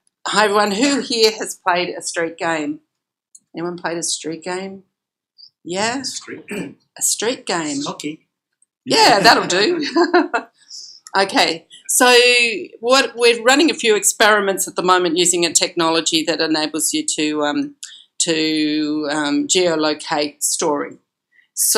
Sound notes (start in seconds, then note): 6.7 voiceover; 9.0 laughs